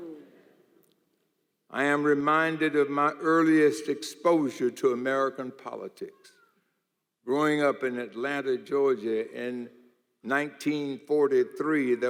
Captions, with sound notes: (audience murmurs). I am reminded of my earliest exposure to American politics. Growing up in Atlanta, Georgia, in 1943,